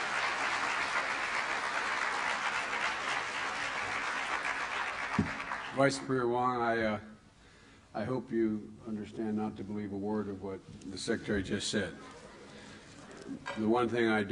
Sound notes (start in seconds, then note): 4.6 applause; 12.8 laughter